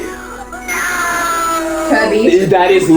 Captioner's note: screams